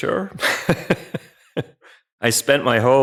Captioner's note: laughs